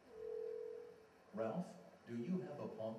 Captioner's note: phone ringing